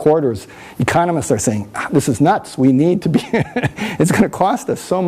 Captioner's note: laughs